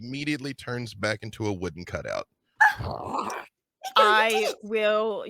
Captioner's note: roars